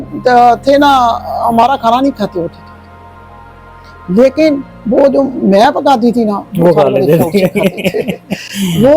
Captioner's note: laughter